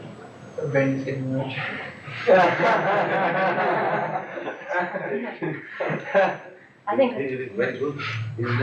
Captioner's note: laughter